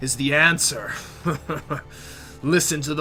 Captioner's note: laughter